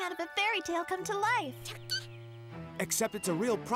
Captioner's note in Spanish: sorprendido